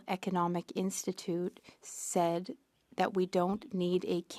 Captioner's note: speaking French